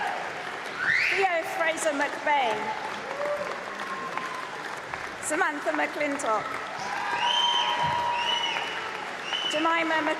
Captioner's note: applause